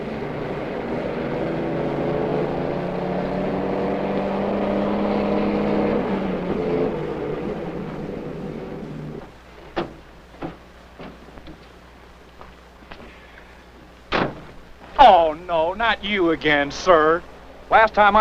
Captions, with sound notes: - 35 chunks of steel. (engine whirs)